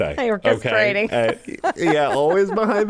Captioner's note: laughs